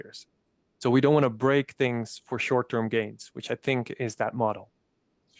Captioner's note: voices